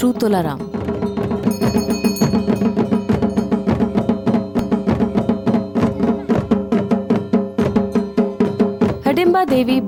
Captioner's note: intense drumming; bells jingling